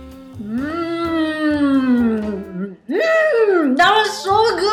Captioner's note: hums